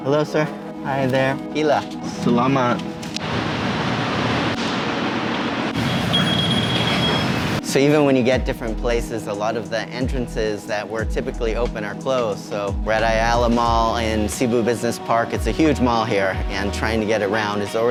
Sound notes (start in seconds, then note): 1.3 speaking foreign language; 2.5 speaking in foreign language; 5.7 alarm beeps